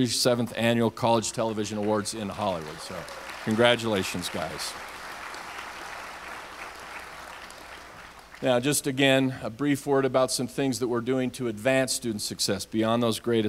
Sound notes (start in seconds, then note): 5.6 audience applauds